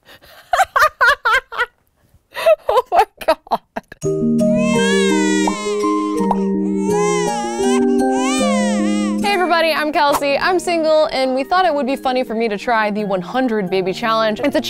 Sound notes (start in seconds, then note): 0.1 laughing; 4.5 baby crying